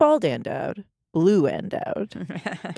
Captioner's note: laughs